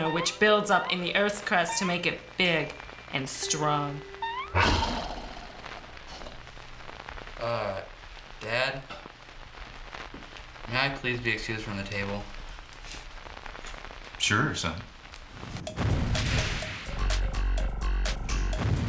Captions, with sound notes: WHICH BUILDS UP IN THE EARTH'S CRUST TO MAKE IT BIG AND STRONG. [ GROWLS ] UH, DAD... MAY I PLEASE BE EXCUSED FROM THE TABLE? SURE, SON.